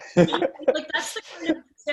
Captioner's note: laughs